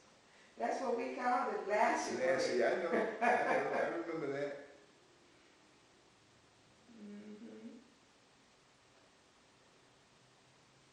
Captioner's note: laughs